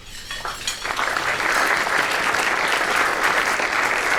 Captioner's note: applause